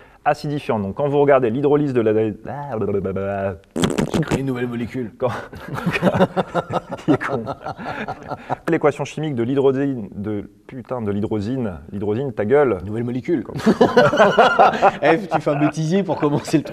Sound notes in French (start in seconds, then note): 5.5 rires